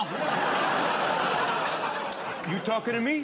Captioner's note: laughter